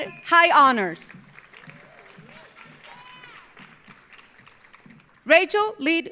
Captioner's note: audience cheering; audience applauding